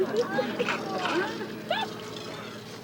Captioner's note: laughs